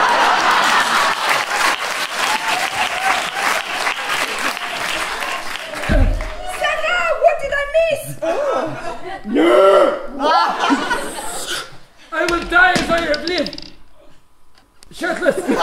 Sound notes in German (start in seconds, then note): 9.2 bestialisches Grunzen